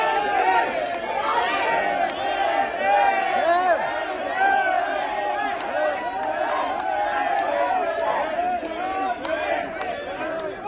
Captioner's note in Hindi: हूटिंग